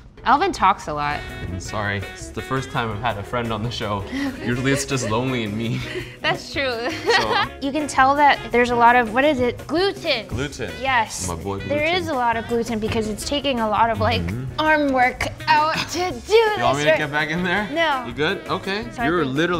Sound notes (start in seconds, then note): 6.8 laughter